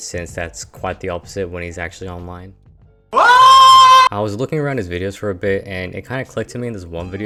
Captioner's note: Twomad yell